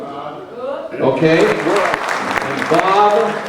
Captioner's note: crowd applauding